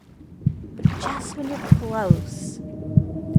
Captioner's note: heartbeat